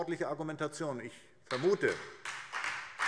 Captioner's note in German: Beifall SPD